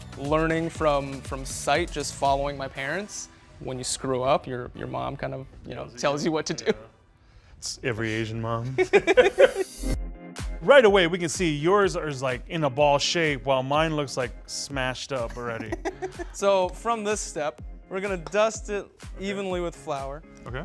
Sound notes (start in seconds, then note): 8.7 laughing